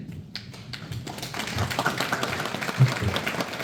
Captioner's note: applause